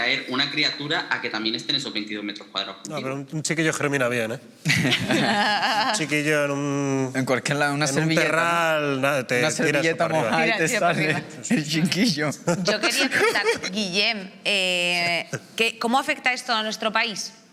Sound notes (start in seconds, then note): 4.6 they laugh; 12.3 he laughs